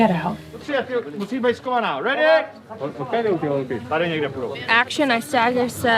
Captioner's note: foreign language